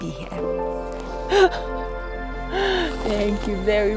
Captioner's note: chuckles